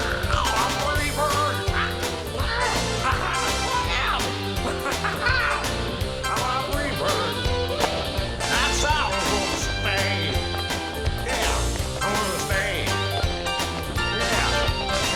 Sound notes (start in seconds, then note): 3.1 צווחות; 3.1 צוחק